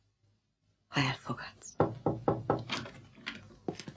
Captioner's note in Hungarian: kopogás, benyitnak